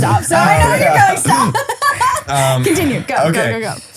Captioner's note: laughs